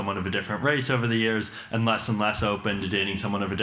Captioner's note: none